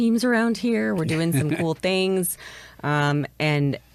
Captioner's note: laughs